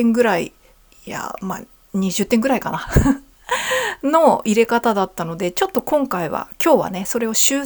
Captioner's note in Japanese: 笑い